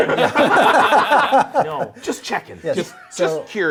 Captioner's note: group laughs